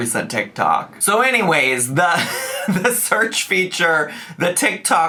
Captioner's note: laughs